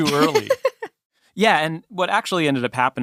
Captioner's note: laughs